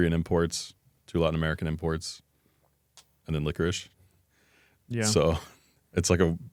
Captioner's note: laughs